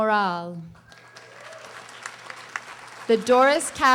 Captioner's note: audience applauding